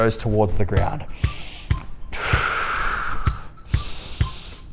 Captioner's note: exhale; inhale